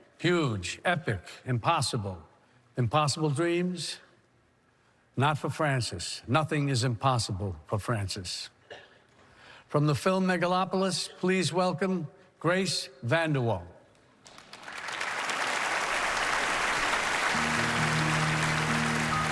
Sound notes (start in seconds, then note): 14.5 cheering and applause